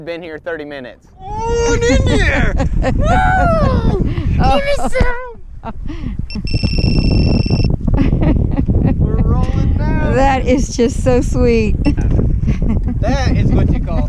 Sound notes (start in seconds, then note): 8.0 laughing; 12.6 laughing